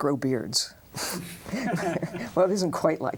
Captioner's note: both laugh